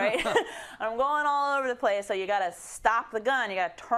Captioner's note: laugh